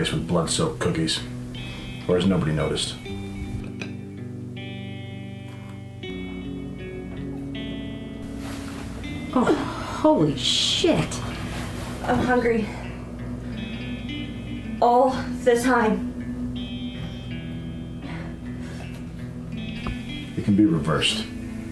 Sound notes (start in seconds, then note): 3.6 eating; 5.8 throwing up